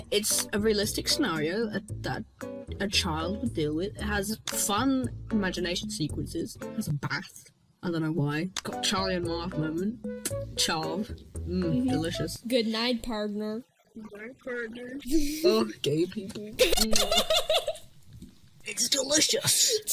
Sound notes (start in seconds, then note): 10.2 kiss